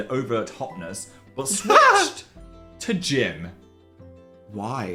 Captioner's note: Dan laughing